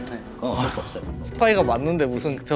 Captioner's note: sigh